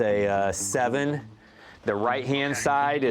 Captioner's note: on phone